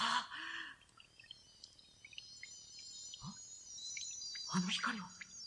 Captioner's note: SFX: sparkling sound